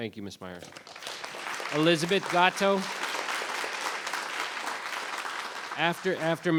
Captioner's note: audience applauds